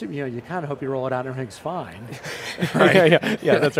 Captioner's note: laughing